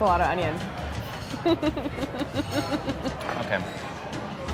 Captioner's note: laughing